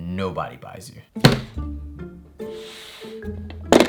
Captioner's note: tofu package sliding